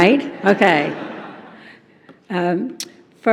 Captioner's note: laughter